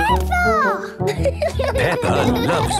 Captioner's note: laughing